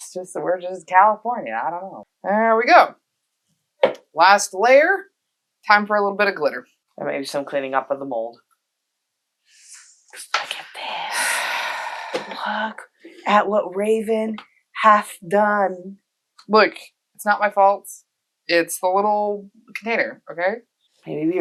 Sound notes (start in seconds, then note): 11.2 long suffering sigh